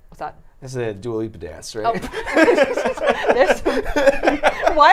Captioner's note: laughing